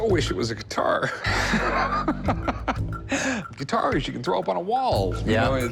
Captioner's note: laughs